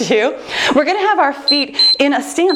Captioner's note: timer beeps